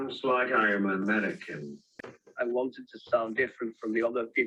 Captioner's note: Yorkshire accent